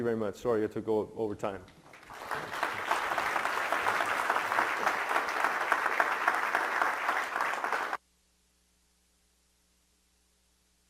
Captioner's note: clapping